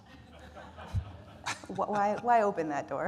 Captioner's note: audience lauhing